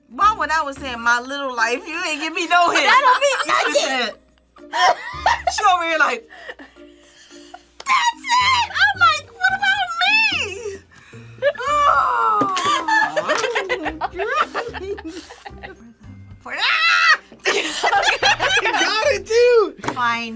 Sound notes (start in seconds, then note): 2.6 laughs; 12.4 both laugh; 16.6 screams; 17.4 both laugh